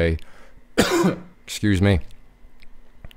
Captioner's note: coughing